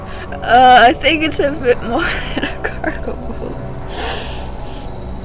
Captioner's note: laughing